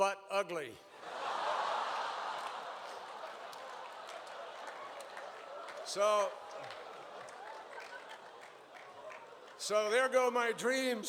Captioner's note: laughter